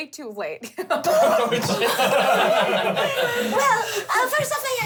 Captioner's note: laughing